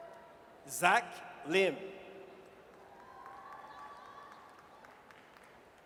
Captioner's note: audience cheers